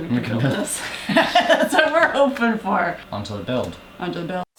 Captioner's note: laugh